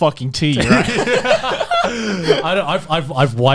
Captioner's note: laughs